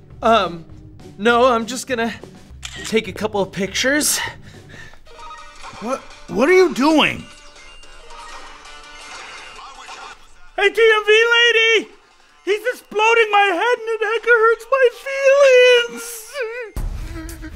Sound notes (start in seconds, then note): 3.7 video game noises; 7.4 video game noises